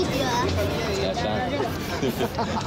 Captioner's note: men speaking native language